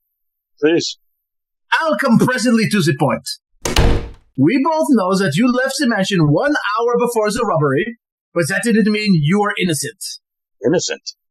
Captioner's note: sound of a slamming door